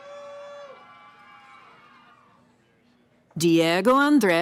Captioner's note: cheering